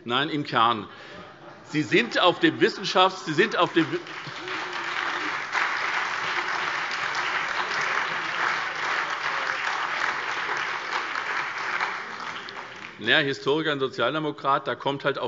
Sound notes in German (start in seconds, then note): 3.3 Beifall SPD, BÜNDNIS 90/DIE GRÜNEN, Freie Demokraten und DIE LINKE